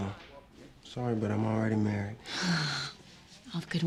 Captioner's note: sighs